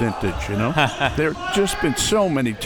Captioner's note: chuckles